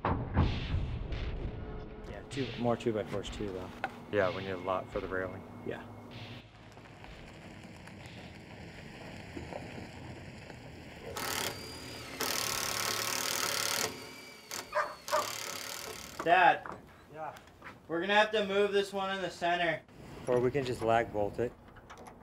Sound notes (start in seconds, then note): 0.8 soft intense music; 11.3 grinding; 14.7 dog barking